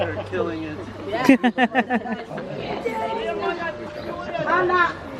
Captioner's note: laughs